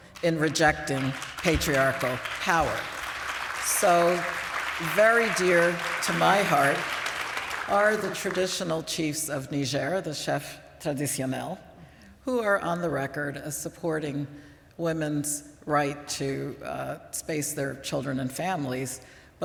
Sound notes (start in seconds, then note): 2.7 applause; 10.4 non-english